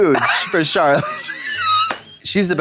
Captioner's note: blonde Women guffaw